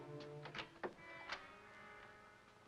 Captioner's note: door opens